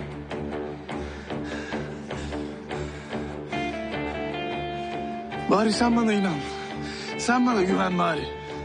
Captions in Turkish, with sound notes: [Ali Rıza nefes nefese kalır] Bari sen bana inan, sen bana güven bari.